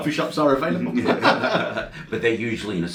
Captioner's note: they laugh